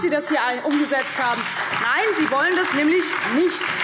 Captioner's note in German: Beifall DIE LINKE, SPD und Freie Demokraten